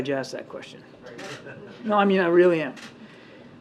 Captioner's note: laughs